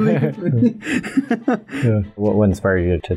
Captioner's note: laughter